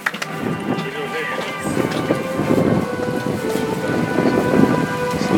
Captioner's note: audience applauds; soft music